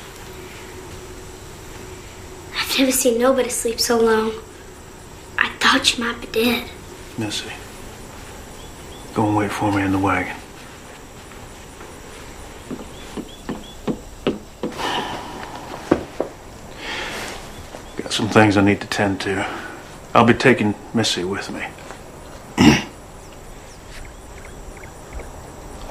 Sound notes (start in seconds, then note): 12.0 footsteps Departing; 12.0 sighs